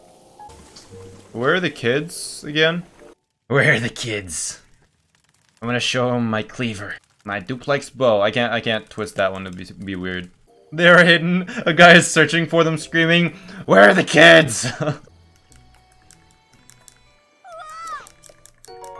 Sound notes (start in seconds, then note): 11.3 laugh